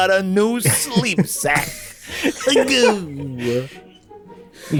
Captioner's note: orgasm noise?